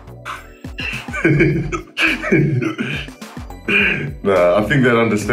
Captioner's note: laughs